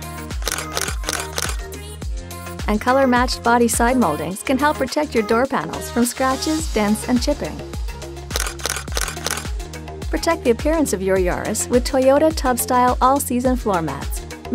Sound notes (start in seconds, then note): 0.3 sound of camera shutter; 8.2 upbeat music plays; 8.3 sound of camera shutter